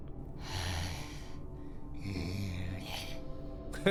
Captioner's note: hollow growl